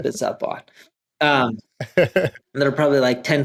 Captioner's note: laughs